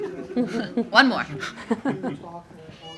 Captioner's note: everyone laugh